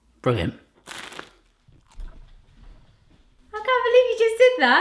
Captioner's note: crunching